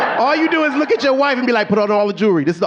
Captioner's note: audience laughing